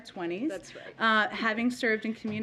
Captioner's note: laughs